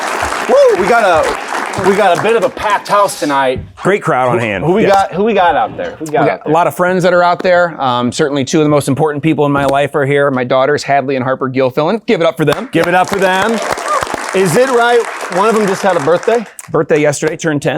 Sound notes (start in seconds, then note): 12.5 clapping; 12.5 audience applauding; 12.7 audience cheering